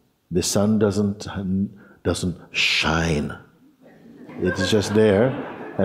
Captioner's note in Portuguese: risos